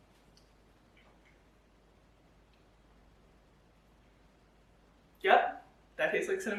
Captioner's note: silence while tasting